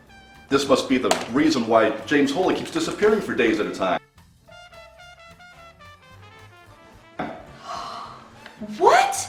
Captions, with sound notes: keeps disappearing for days at a time. (upbeat music) (gasping) - What! That, that beast.